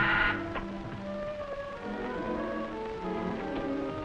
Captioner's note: intercom buzzing